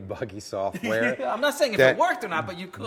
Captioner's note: both laugh